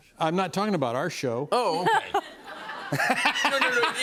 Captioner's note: laughter